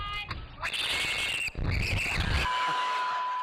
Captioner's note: both scream